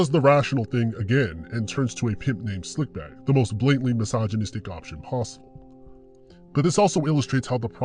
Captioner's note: sarcasm